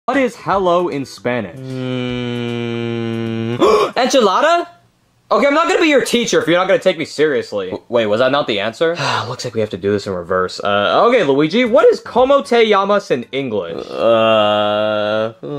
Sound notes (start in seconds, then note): 1.6 gasps; 9.0 sighs